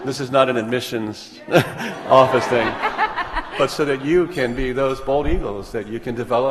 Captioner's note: laughter